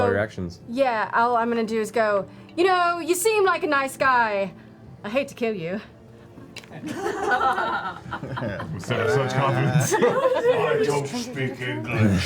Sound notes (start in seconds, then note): 6.8 laughter